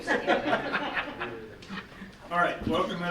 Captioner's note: laughing